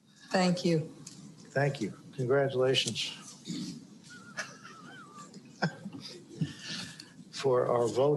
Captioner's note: laughter